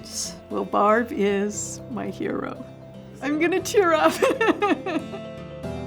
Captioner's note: laughs; gentle music